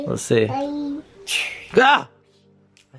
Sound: web shooting

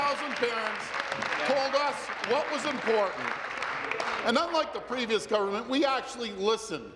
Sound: some Applause

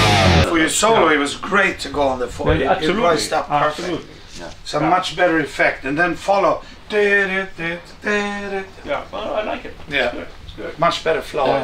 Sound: talking in the studio

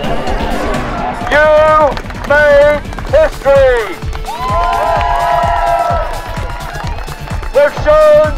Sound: cheering

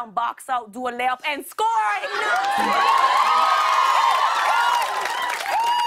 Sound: cheers and applause

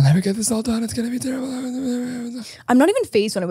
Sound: mutters

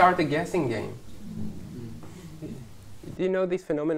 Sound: hmmm

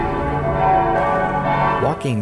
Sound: church bells

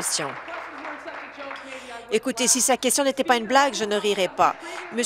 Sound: applause

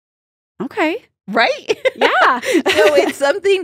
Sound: laughs

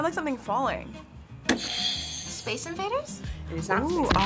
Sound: buzzer rings

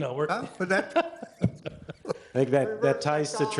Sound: all laughing

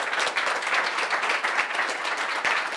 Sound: applause

